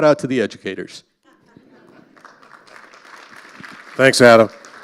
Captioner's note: audience laughing and applauding